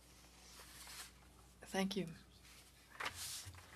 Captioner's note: speaking French